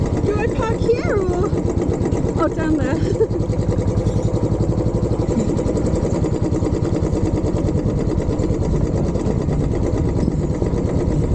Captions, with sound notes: - Do I park here or...? Oh, down there. [bike engine]